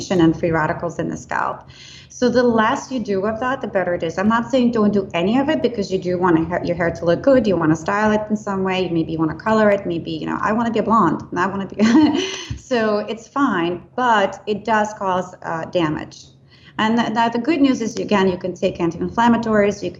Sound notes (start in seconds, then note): 11.8 laughs